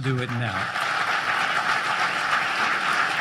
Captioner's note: applause